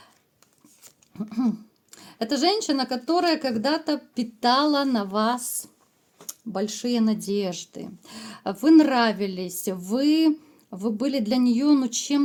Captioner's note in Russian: откашливается